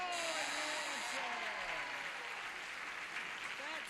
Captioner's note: buzzer sounds